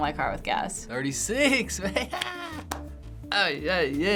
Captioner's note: laughing